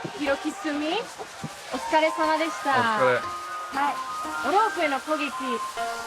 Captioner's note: speaking in foreign language